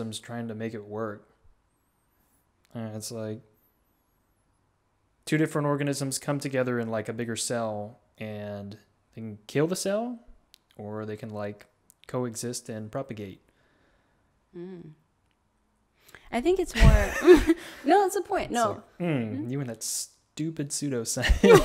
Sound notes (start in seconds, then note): 16.8 laughs